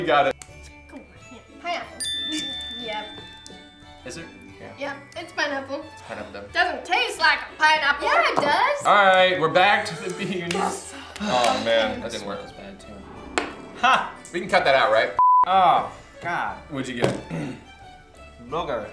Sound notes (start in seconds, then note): 15.2 beep